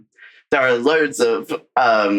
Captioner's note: laughing